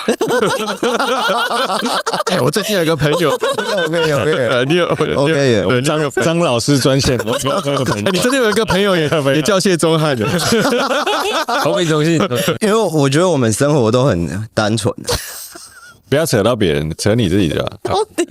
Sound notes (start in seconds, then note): 0.1 laughing; 10.1 laughs